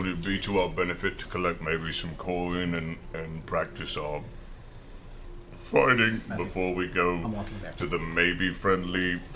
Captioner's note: gets choked up